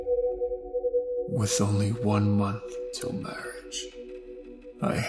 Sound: voiceover

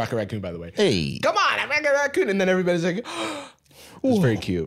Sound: gasps

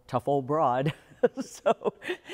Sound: laughter

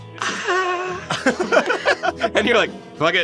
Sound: both laughing

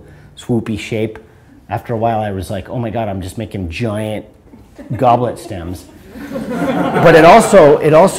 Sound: audience laughter

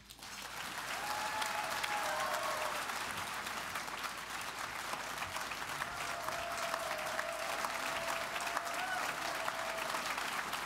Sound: applause

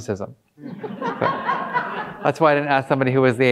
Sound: audience laughing

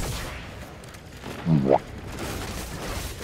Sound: boo-womp Sound effect

